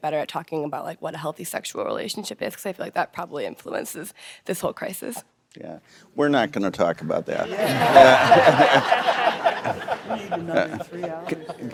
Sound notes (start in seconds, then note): 7.5 laughter